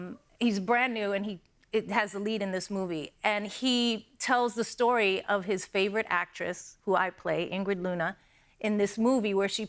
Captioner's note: none